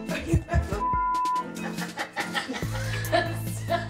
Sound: beep; Angelina laughing

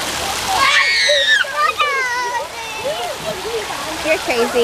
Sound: kids shrieking

